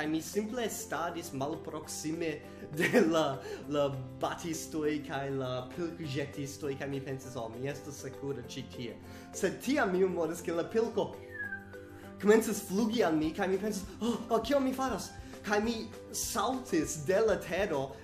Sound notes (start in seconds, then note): 11.2 whistles